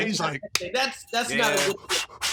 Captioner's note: breathing heavily